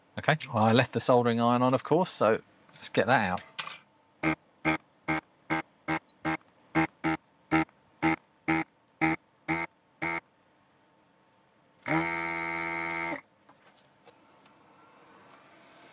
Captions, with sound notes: Okay, well I left the soldering iron on of course, so let's get that out. (Beeping)